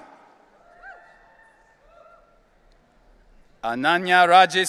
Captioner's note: audience cheering